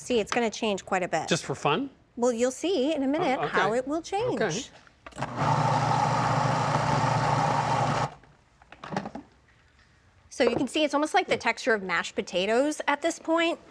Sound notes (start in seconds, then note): 5.2 processor whirring; 8.2 processor stops